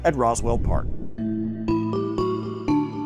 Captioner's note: graphics whooshing; bright music